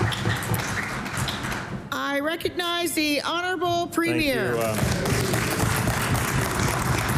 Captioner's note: applause